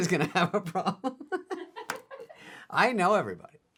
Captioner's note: laughing